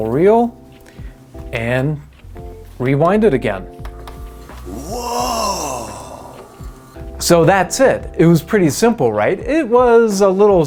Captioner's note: silly male voice: woooooh